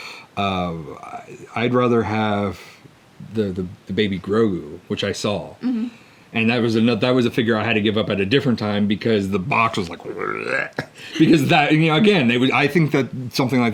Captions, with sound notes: I'd rather have the Baby Grogu, which I saw. - Mmh-huh. - And that was a figure I had to give up at a different time because the box was like, (makes barfing noise) because, you know, again, I think that something like that,